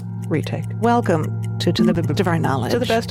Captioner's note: graphics blipping